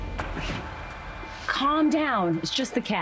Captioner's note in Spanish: Debra jadea